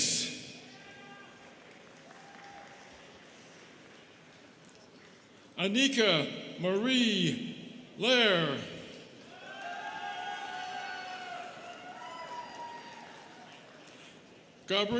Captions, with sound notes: (students clapping) Annika Marie Lahr. (students cheering)